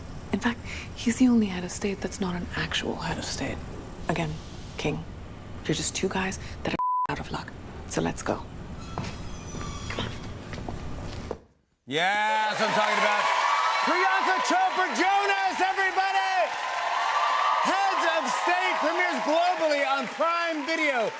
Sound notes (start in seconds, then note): 16.5 cheers and applause